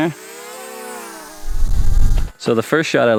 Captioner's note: drone buzzing